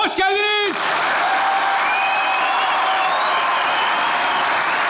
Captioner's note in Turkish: Alkış sesleri